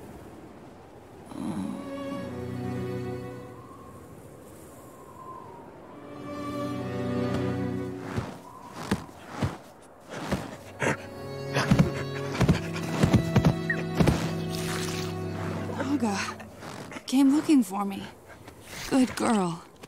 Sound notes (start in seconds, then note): 10.1 panting